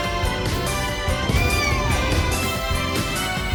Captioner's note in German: miaut